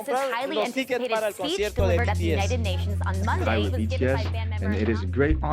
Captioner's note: soundbite of archived recording